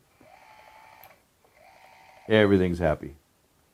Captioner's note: lock whirring